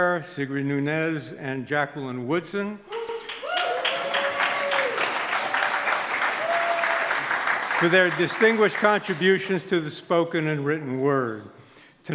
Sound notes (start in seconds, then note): 2.9 audience claps; 3.0 audience hollers